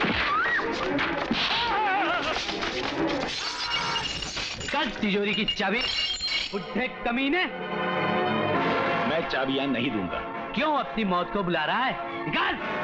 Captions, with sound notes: (Groans) (Glass shatters) Give me the safe keys you old man, you scoundrel! I will not give you the keys. Why do you want to invite your death, come on give them to me.